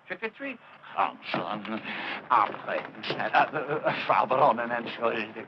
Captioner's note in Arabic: الصوت المنطوق باللغة الألمانية